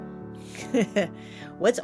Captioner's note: chuckle